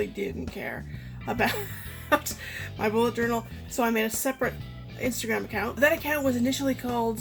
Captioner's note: laughing